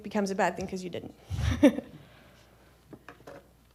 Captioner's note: laughs